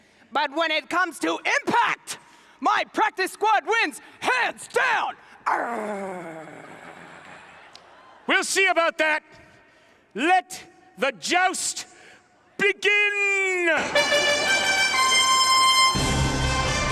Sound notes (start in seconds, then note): 5.3 growling; 13.8 horns playing